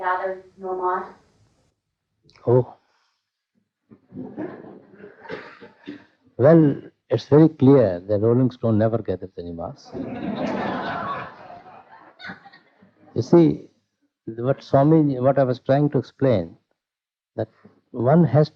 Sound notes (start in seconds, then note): 4.0 laughter; 9.8 laughter